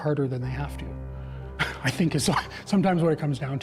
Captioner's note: scoffs